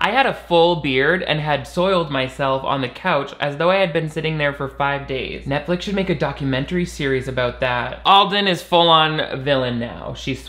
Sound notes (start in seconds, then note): none